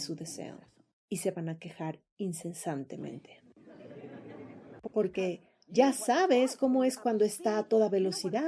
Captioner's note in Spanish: risas